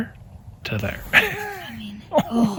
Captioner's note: laughing